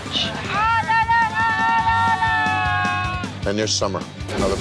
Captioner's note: shouting